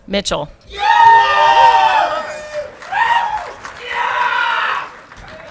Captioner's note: audience clapping and cheering